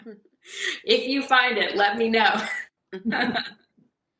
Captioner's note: laughter